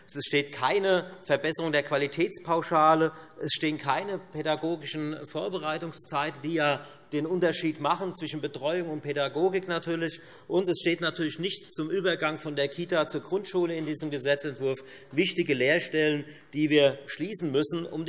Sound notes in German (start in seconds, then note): none